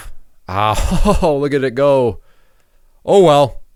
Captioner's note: laughs